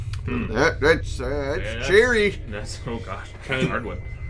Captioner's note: jokey lumberjack voice